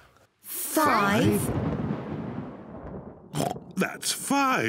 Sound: thunder rumbles; oinks

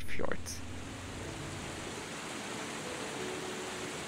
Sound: water cascading

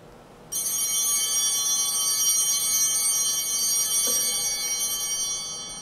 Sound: altar bell ringing

